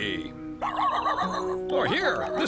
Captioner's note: barking